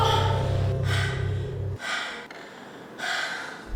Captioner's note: relieved yelp; panting